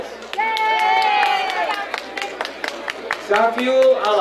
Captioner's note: crowd cheering